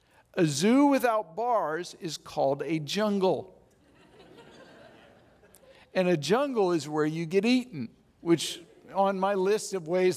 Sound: audience laughs

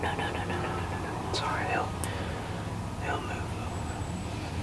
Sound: whispering

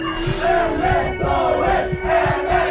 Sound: crowd

